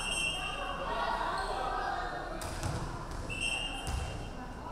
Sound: referee whistling

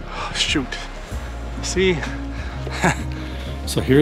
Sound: laugh

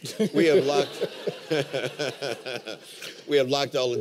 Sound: laughter

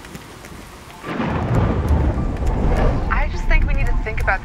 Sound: thunder crashes

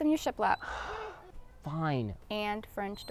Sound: sighs

